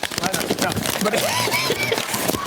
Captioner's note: laughter